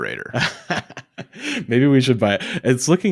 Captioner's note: laughs